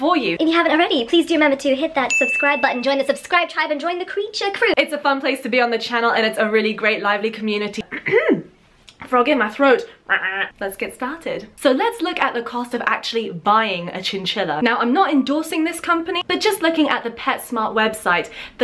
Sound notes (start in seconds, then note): 7.8 clears throat; 10.1 ribbits